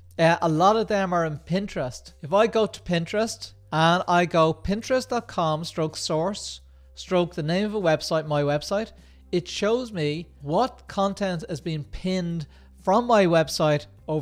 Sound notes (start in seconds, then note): none